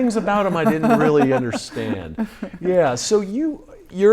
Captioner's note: laughing